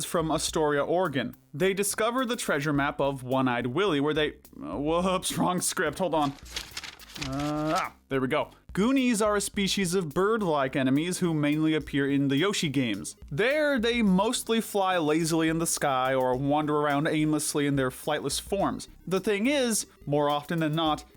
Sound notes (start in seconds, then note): 5.8 rustling papers